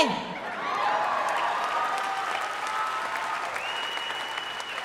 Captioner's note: audience applauding